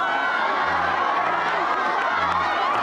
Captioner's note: cheering